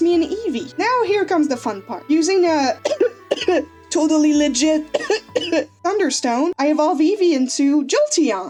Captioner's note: cough cough TOTALLY LEGIT cough cough